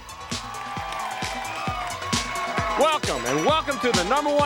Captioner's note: crowd cheering